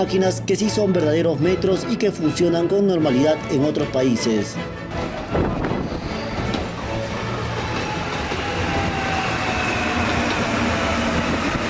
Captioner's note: sound of trains